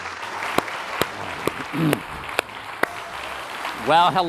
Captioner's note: applause